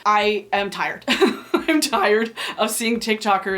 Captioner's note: laughing